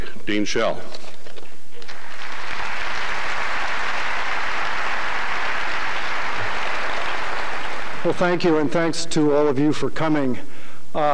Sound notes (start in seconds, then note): 1.8 applause